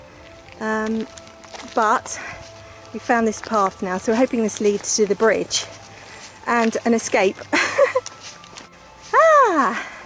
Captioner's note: laughing